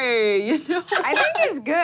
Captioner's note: laughs